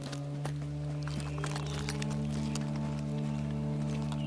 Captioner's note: rustling inside backpack